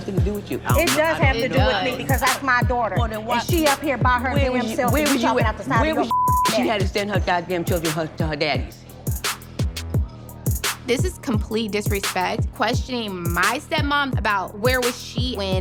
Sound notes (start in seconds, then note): 6.0 beep; 9.8 upbeat music